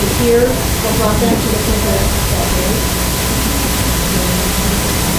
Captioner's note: students mumbling softly